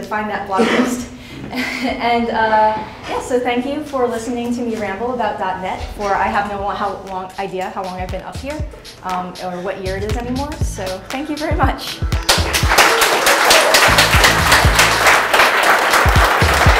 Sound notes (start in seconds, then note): 12.2 applause